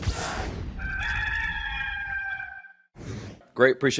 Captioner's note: cock crowing